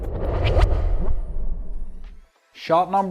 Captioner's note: transition whooshes